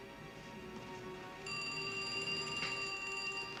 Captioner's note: telephone ringing